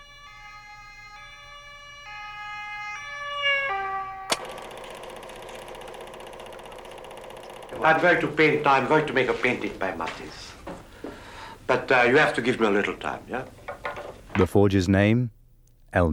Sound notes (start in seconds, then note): 4.2 tape whirring